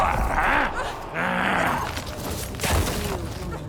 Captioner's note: screaming